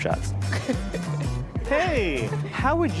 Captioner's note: laughs